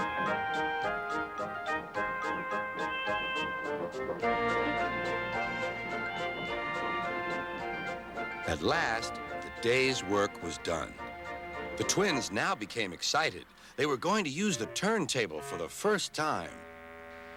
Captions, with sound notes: ( hoots ) ( hoots ) AT LAST, THE DAY'S WORK WAS DONE. THE TWINS NOW BECAME EXCITED. THEY WERE GOING TO USE THE TURNTABLE FOR THE FIRST TIME.